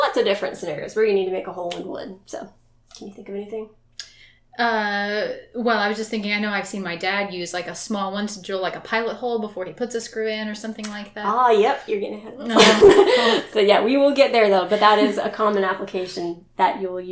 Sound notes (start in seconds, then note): 12.4 laughs